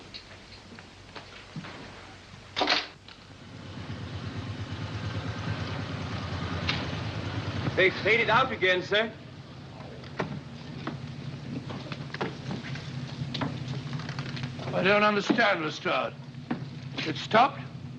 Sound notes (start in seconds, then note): 2.7 car rumbles softly; 10.0 door opens